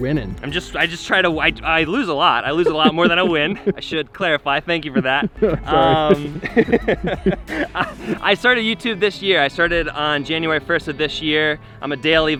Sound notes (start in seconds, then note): 4.6 laughs